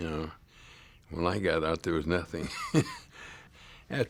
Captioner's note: laughs